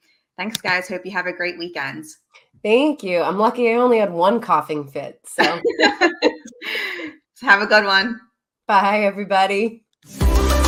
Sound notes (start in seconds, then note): 5.4 laugh; 10.1 upbeat music